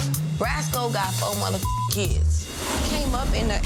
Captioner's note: beep